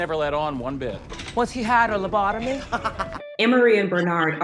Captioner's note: laughs